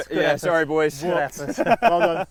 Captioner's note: laughs